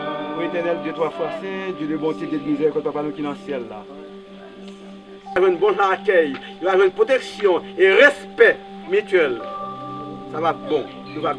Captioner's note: pastor praying in Creole